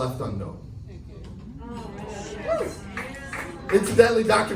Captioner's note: audience murmurs in agreement